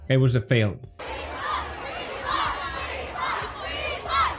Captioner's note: continuous chanting of "Refund"; crowd chants refund